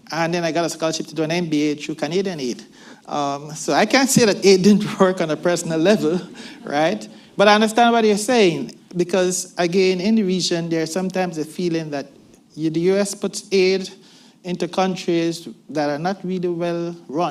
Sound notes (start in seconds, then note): 6.6 laughter